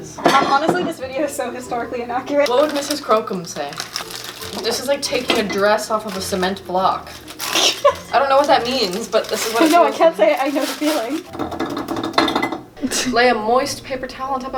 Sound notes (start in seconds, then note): 7.5 laughs; 11.8 rattling noises